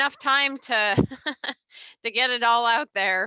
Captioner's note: laughs